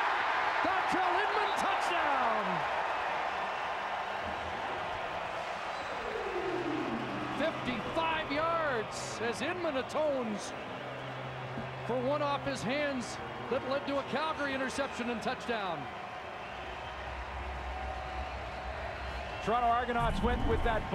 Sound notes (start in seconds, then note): 5.8 cheering and applause